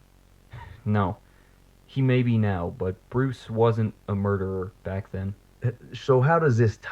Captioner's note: chuckle